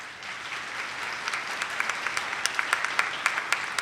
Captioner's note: attendees clapping